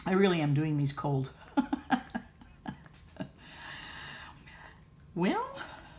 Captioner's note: laughter